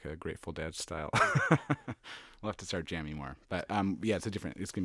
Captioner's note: laughs